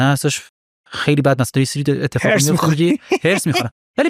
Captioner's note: laughs